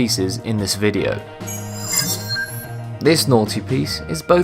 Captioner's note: sharp chiming